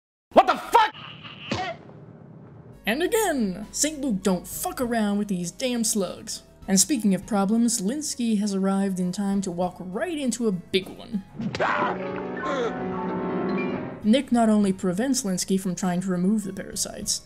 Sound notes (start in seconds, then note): 11.2 Linsky yelling